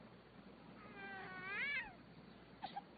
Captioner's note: baby crying